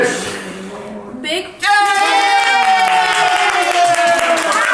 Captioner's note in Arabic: الجميع يهتفون